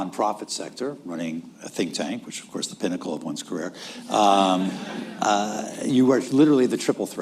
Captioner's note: laughter